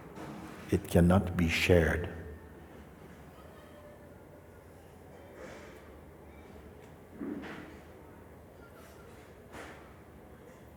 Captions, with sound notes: It cannot be shared. [silence]